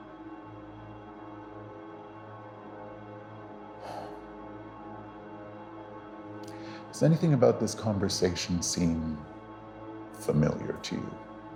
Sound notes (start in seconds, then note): 0.2 soft dramatic music; 3.8 Administrator sighs